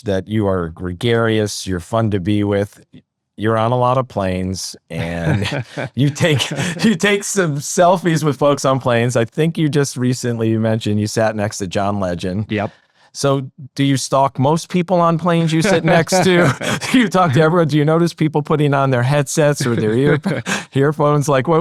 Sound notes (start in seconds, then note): 15.4 both laughing